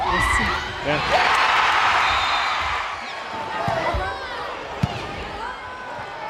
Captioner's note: crowd and players cheering